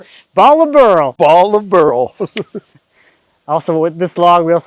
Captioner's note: chuckles